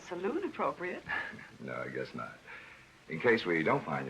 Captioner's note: laughs